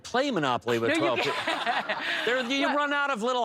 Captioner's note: laughter